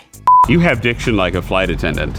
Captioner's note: loud beeping